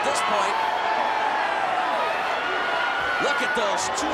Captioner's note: audience cheers